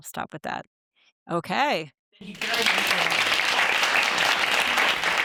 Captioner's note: audience applauds